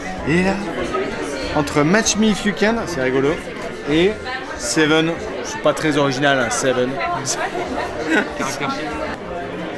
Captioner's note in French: rires